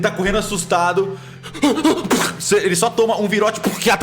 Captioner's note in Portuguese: respiração ofegante